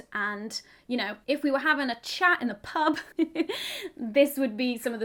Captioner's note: chuckles